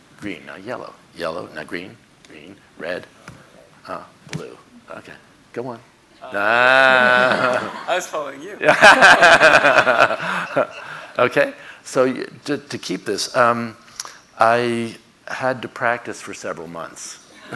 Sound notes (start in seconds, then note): 8.6 audience laughing; 17.3 audience laughing